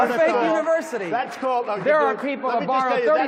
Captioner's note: applause